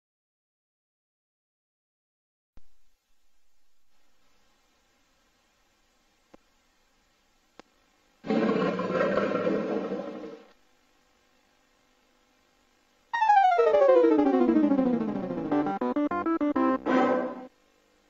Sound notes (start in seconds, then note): 8.3 jaguar roaring; 13.1 32-bit console startup music